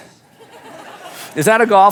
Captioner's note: audience laughs